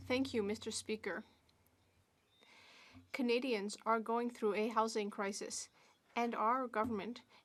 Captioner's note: speaking French